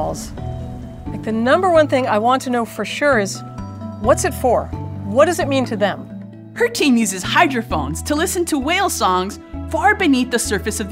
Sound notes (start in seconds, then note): none